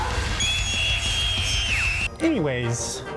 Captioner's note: more screaming